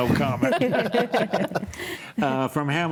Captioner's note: laughs